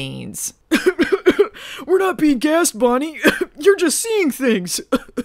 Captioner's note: coughs